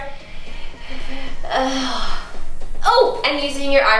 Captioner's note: sighs heavily